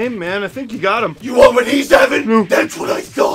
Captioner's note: batman voice